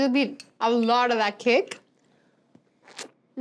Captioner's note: none